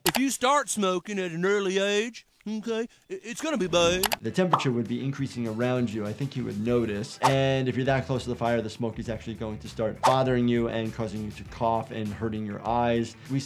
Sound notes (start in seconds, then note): none